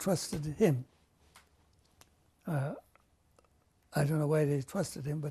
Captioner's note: pauses for 3 seconds